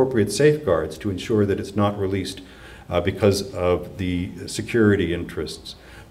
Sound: none

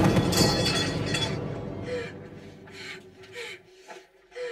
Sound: pole Clanks To Ground; gasping

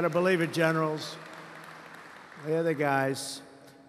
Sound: applause

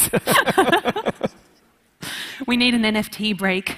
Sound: laughing

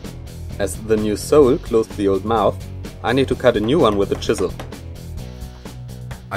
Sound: tapping

